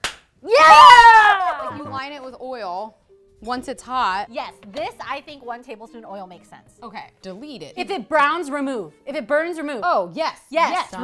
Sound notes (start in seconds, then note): 0.5 girls cheer and laugh